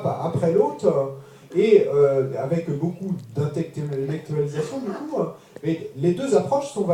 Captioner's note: French